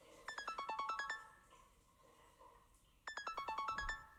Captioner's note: phone rings